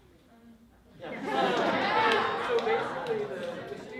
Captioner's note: laughter